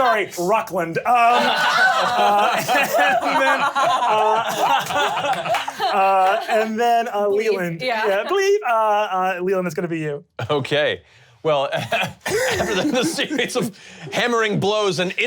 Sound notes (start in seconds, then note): 4.1 laughs